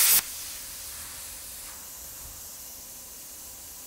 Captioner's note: gas hissing